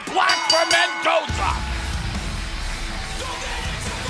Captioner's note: bell ringing